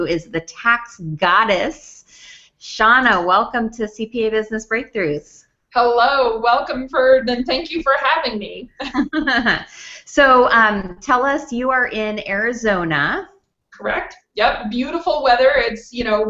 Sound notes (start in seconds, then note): 8.7 chuckles